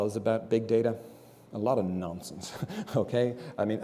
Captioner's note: laugh